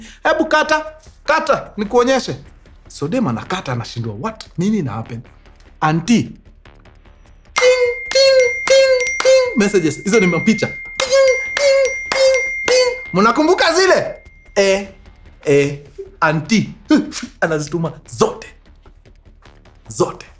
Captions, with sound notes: End the call, I'll show you. The girl ends the call and wonders what is happening. Auntie, [pings] sends messages, those are pictures. [pings] Remember those pictures? Yes. Auntie sends them all. All of them.